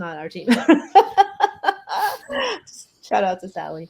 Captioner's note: laughs